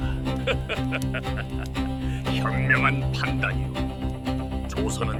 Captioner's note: laughs